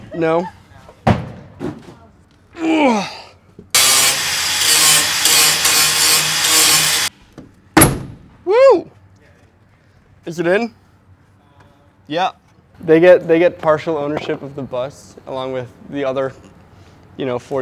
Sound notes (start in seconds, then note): 0.0 banging loudly; 3.0 grunting; 3.7 tool whirring; 7.8 window thudding